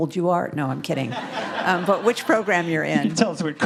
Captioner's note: audience laughing